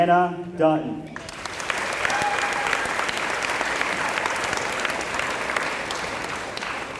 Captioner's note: applause